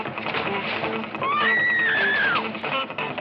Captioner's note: Maggie screaming